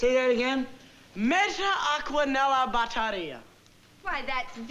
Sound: speaking italian

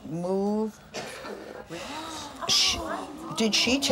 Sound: gasping

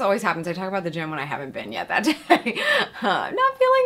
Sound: chuckles

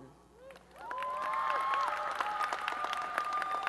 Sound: applause and cheering

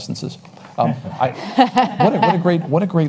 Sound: panelists laugh

